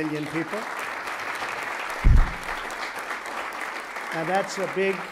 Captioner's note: applause